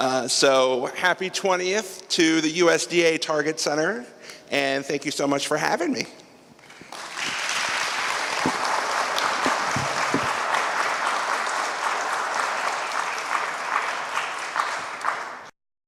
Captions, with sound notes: So "Happy Twentieth to the USDA Target Center" and thank you so much for having me. (APPLAUSE)